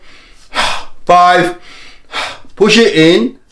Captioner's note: inhaling and exhaling